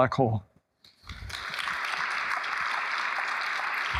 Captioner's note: applause